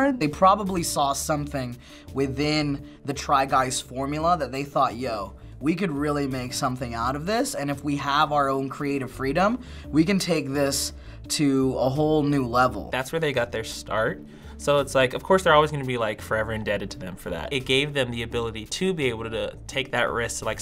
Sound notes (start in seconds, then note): none